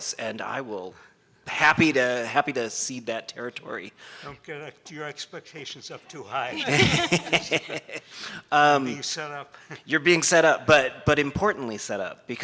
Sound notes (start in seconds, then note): 6.5 laughing